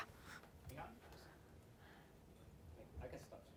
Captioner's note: chatter